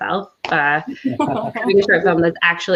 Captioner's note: laughing